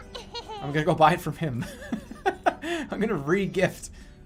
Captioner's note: laughing